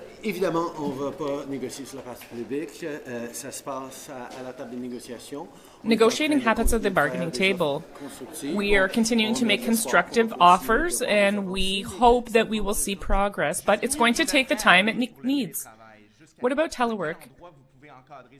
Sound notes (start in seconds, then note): 4.0 speaking French